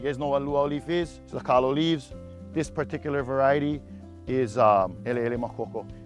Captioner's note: speaking Hawaiian